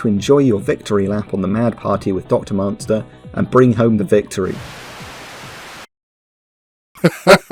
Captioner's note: static burst in